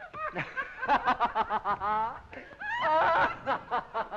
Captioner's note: boisterous laughing